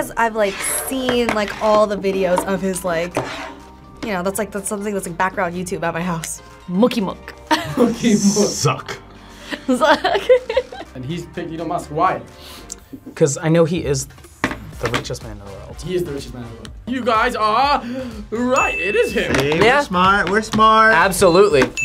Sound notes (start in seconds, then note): 9.5 laughs